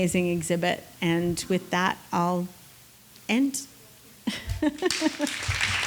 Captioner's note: laughs; audience applauds